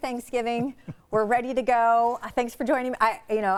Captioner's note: chuckling